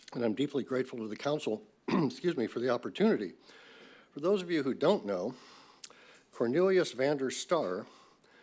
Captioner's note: coughs